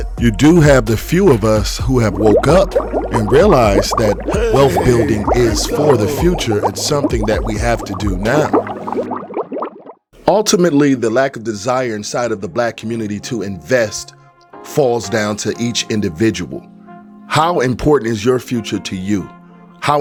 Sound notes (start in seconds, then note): 9.2 water bubbling